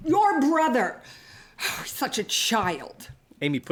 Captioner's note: sighs